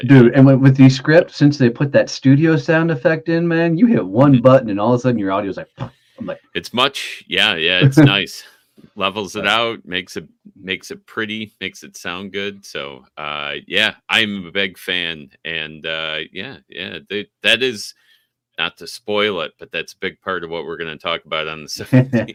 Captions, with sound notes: - Yeah, Descript is great for that. - Dude, and with Descript, since they put that studio sound effect in, man, you hit one button, and all of a sudden your audio's like (vibrates lips). I'm like. - It's much, yeah, yeah, it's nice. Levels it out, makes it pretty, makes it sound good. So, yeah, I'm a big fan. Yeah, that is, not to spoil it, but that's a big part